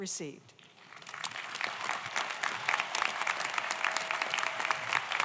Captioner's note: audience applauds